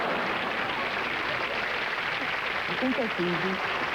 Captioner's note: applause